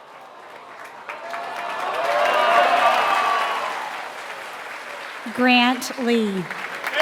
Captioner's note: applause